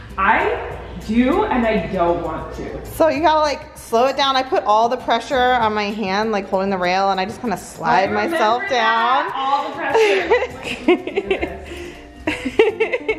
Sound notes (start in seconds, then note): 9.6 laughing